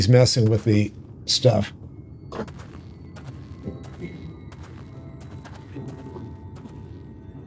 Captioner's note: footsteps